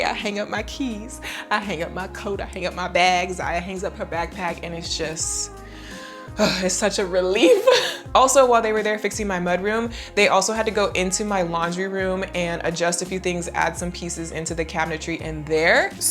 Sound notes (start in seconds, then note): 5.8 sigh